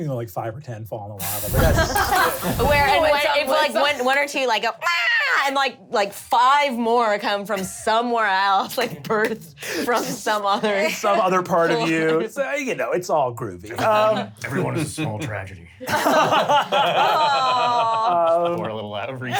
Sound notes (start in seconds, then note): 1.7 laughter; 4.9 screeches; 15.8 laughter